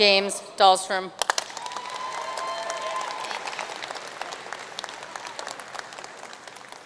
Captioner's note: audience cheering and applauding